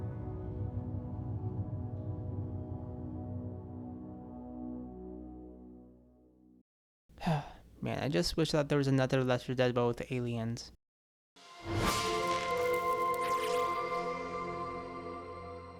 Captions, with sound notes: *sigh* Man, I just wish that there was another "L4D but with aliens"... ??? ?????????